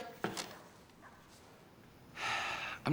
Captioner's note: sighing